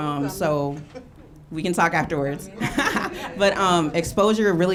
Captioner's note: laughs